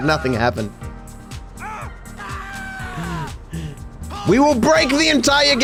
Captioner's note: NPC Screaming